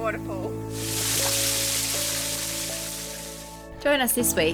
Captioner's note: water burbling; relaxing music